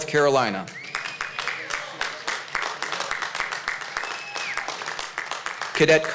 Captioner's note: applause